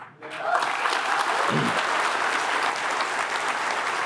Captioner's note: applause